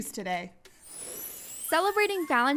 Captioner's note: chime